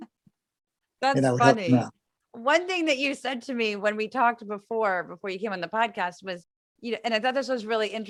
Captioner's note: laugh